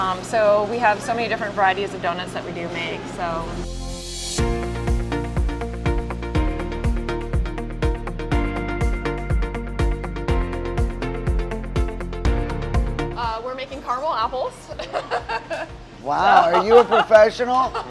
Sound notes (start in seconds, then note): 3.6 happy music; 16.1 laughs